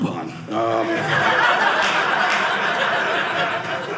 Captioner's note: audience laughing